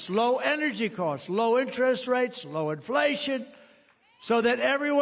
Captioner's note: cheering